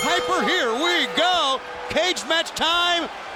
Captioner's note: bell dinging